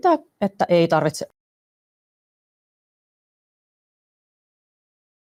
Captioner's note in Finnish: ääni katkeaa